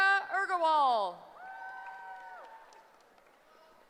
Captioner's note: cheering